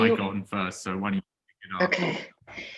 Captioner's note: muffles speaking